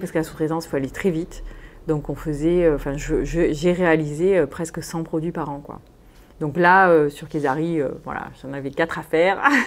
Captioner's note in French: rires